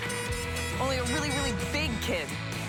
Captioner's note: horn beeping